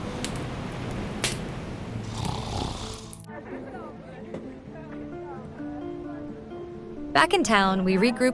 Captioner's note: Jack snoring